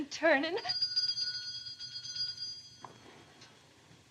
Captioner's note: doorbell rings